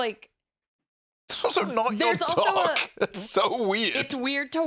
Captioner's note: laughing